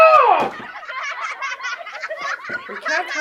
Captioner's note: laughter